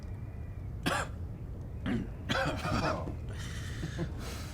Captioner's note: coughing